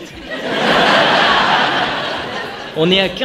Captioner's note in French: rire